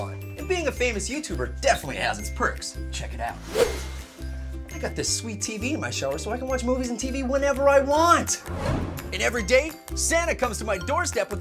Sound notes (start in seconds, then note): 3.4 whoosh!